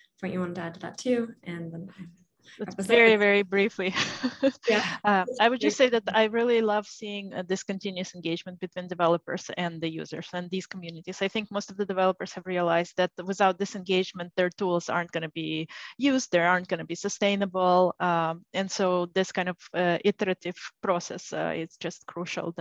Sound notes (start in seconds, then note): 4.3 laughs